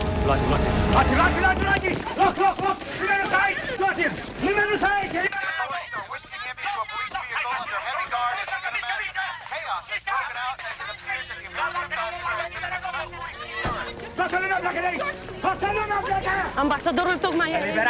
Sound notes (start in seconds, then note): 0.1 shouting; 14.0 shouting in foreign language